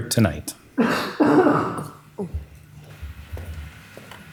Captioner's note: coughing